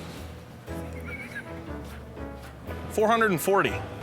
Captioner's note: laughter